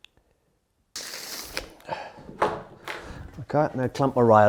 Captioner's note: tape measure rasps